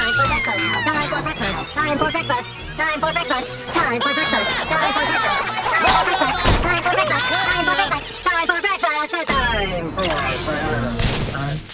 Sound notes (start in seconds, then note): 4.7 screaming